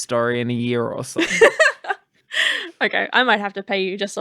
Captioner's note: laughing